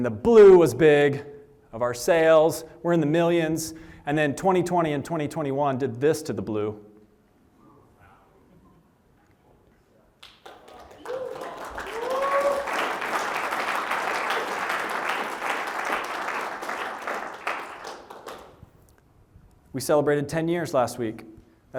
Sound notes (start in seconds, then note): 7.1 applause